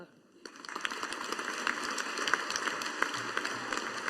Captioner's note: audience applauding